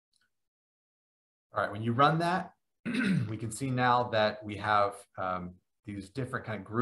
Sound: cough

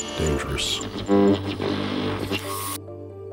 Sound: static buzzes; pensive music

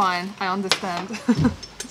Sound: laughter

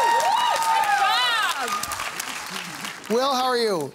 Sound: cheering

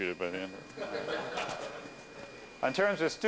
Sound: laughter

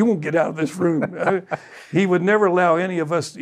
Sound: laughing

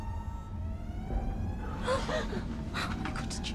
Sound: bang

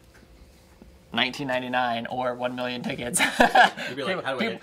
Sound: laughing

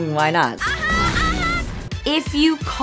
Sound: screaming

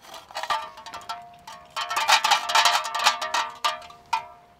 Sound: beer can jingling

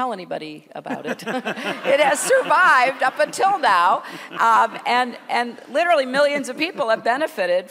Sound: laughter

